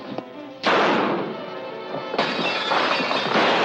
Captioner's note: gun firing